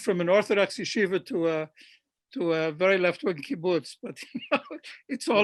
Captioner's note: laughs